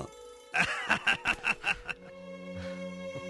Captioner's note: laughing